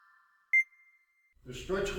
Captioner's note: cute Sound Effect